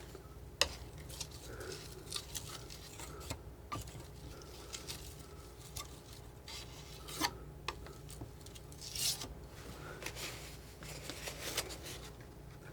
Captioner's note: plastic crinkling